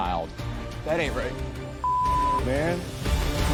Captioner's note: beep